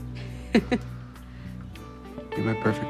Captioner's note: laughs